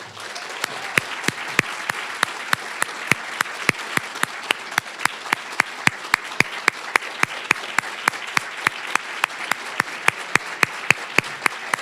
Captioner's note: applause